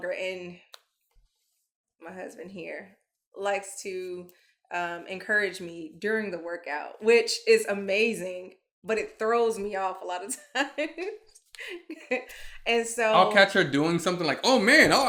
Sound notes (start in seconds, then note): 11.0 chuckles